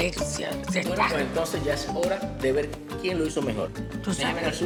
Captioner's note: speak Spanish; speaks Spanish